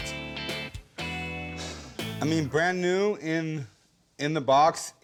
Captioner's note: sighs